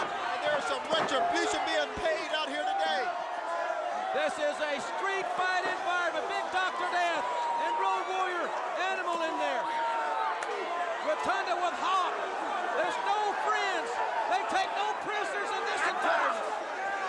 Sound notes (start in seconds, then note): 6.7 crowd chatter; 15.6 crowd cheering